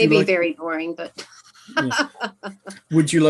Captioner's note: laughing